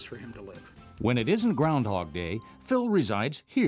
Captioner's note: voiceover